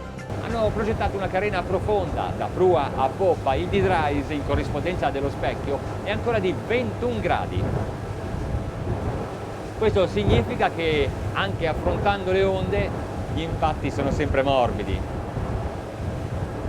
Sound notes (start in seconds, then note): 1.1 speaking in foreign language